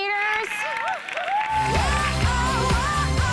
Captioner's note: cheering and applause; fast pop music